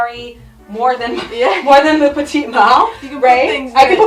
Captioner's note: both chuckle